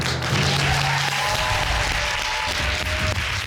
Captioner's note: all applauding